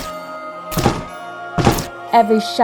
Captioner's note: chop!